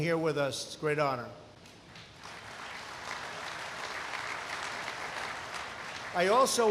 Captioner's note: applause